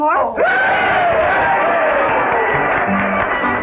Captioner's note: cheering